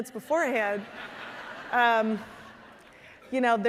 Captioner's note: audience laughing